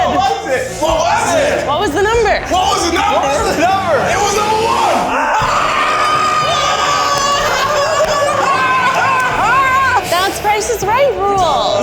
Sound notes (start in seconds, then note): 5.3 group laughing; 5.3 group yelling